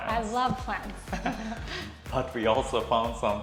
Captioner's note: both laughs